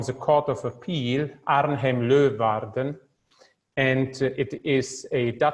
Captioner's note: speaks foreign language